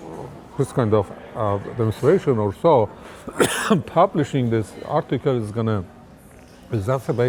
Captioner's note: coughs